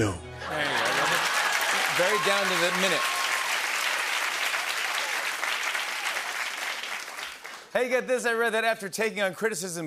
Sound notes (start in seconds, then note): 0.4 cheering; 0.6 laughter and applause